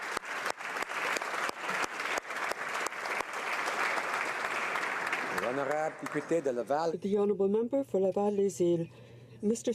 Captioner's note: applause